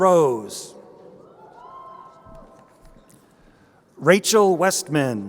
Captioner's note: crowd cheering